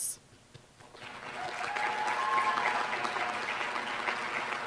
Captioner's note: applause